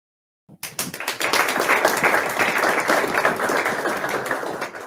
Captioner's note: audience clapping